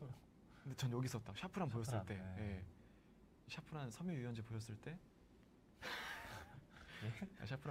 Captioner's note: laughs